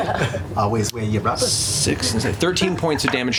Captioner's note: New Jersey accent